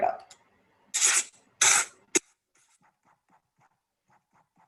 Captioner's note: paper tears